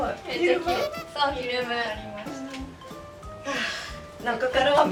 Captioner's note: laughs